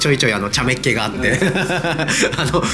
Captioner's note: laughs